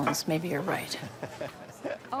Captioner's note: laughing